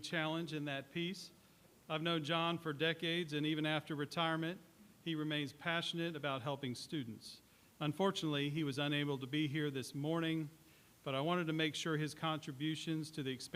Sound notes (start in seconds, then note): none